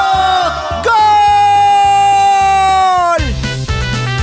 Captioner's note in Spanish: Grito